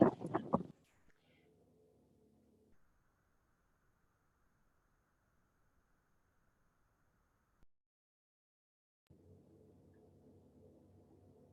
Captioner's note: microphone turned off